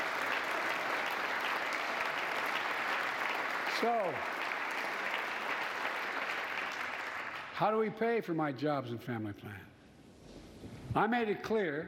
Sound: applause

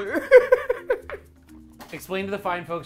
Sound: laughs

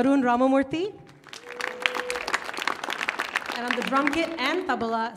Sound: audience claps

